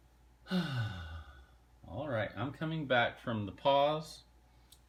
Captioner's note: sigh